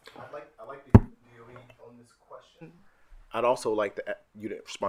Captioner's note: speaking faintly